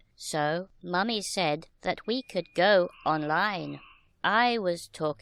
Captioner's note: modem sounds